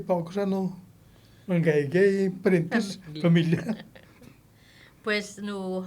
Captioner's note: laughing